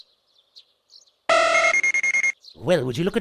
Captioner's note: Various Scouter beeps